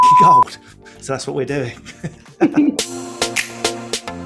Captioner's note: laughs